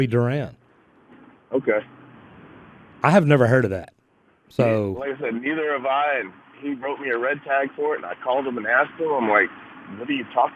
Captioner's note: on the Phone